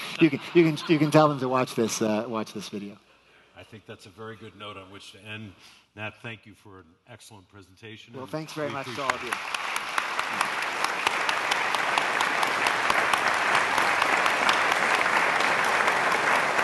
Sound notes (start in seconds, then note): 9.9 audience applauds